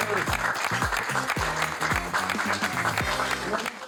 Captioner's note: group applauds